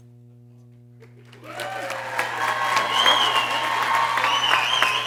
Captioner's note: people cheering